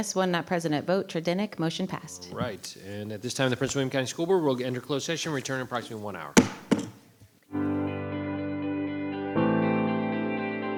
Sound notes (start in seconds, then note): 6.3 gavel thudding; 7.5 bright music